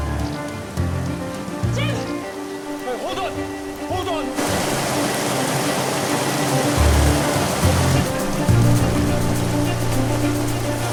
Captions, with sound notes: Jim! - Hold on! Hold on! (water rushing) (dramatic orchestral music)